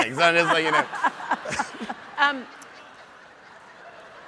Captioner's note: audience laughs